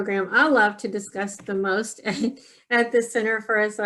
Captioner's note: chuckling